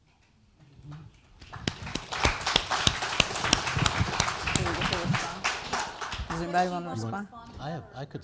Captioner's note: applause